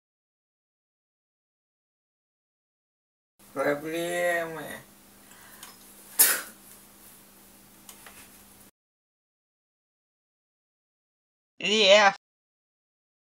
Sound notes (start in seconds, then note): 6.1 spits